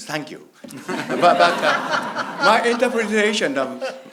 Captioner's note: loud laughing